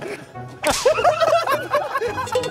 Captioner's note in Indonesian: Smack